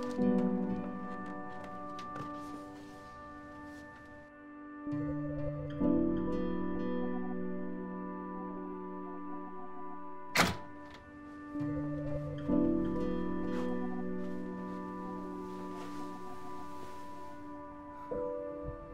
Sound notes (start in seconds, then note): 0.2 expressive piano over uneasy electronic music; 10.3 door rattling; 11.5 expressive piano over uneasy electronic music